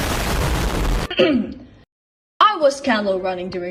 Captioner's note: ahem